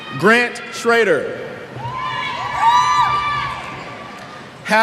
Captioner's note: cheers